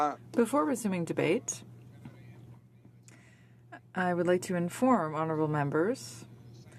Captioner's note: speaking in french